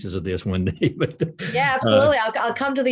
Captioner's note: laughs